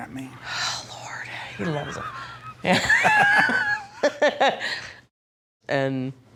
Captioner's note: laughter